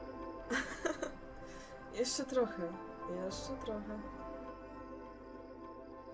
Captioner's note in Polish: śmiech